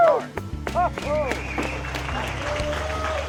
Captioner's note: crowd cheering